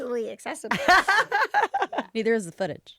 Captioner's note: all laughing